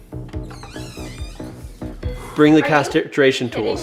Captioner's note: door creaking